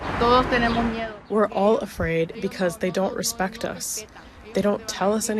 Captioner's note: through translator